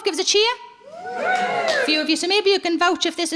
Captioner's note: audience cheering and clapping